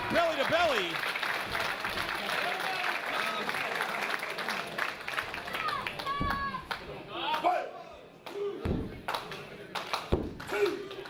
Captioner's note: applause